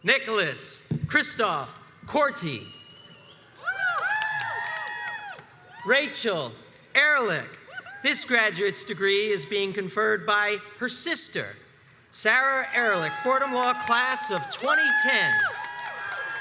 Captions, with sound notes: Nicholas Christoff Corti, (crowds cheers and applauds) Rachel Erhlich, This graduate's degree is being conferred by her sister. Sarah Erlich Fordham Law Class of 2010.